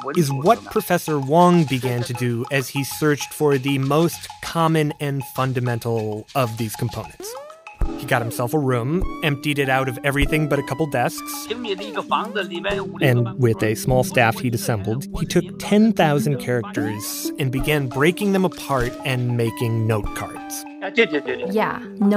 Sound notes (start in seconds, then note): 11.9 speaking Mandarin; 20.8 speaking Mandarin